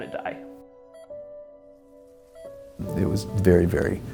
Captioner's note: wind bristling tree leaves